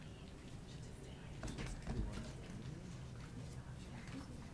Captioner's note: people chattering